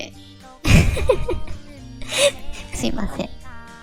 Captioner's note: laugh